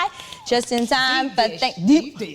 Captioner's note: Wendy applauding